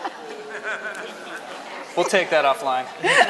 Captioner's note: laughter